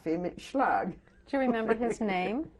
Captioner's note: laughs